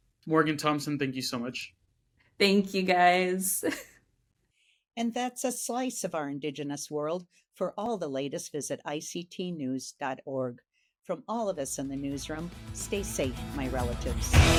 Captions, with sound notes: - Morgan Thompson, thank you so much. - Thank you, guys. (laughs) - And that's a slice of our Indigenous world. For all the latest, visit ictnews.org. From all of us in the newsroom, stay safe, my relatives.